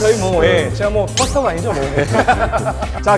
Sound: haha

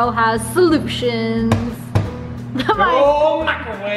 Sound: banging

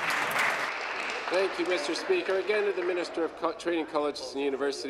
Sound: applause

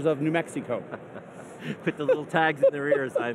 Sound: laughs

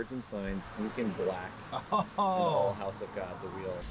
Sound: laughing

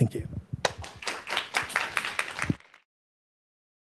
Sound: applause

